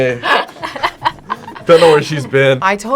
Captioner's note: both laugh